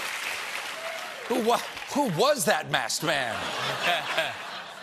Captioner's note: laughter